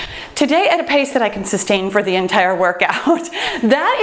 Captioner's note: laughs